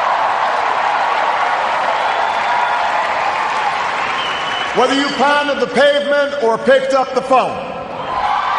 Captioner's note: cheers, applause